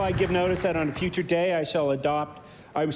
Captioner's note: applause